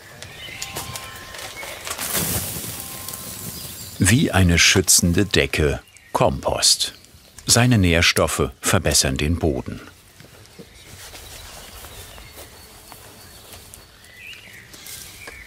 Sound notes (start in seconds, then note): 2.4 cell phone ringing in the background; 9.9 humming, birds chirping